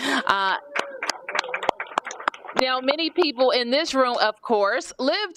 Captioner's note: applause